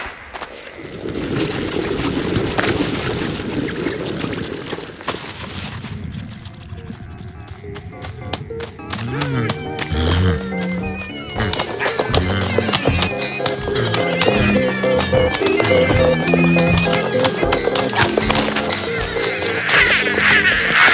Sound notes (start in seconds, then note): 0.2 cracking; 8.7 whimsical music; 9.6 creatures chattering